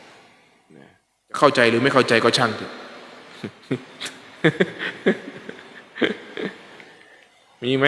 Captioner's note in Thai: เสียงหัวเราะ